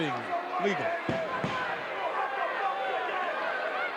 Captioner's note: audience cheering